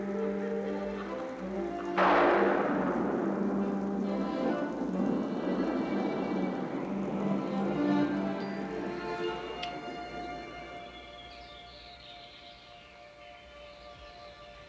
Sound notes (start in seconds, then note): 2.2 thunder crashes; 6.0 dramatic music; 12.0 birds singing